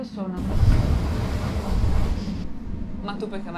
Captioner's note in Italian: treno che passa